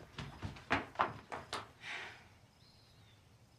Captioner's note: sighs